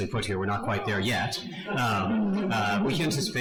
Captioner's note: audience laughs